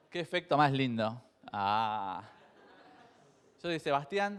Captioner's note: crowd laughs